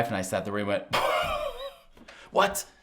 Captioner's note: host exhaling